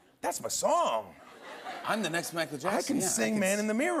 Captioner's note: laughter